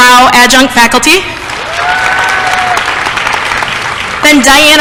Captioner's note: applause